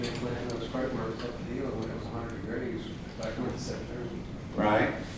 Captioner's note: softly talking off mic